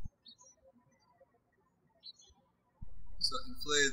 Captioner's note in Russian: птички щебечут